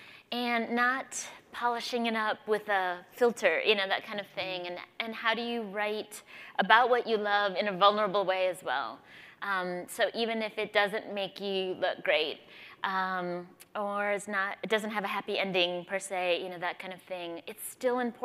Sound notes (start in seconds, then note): none